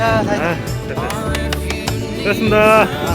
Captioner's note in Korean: 짝짝짝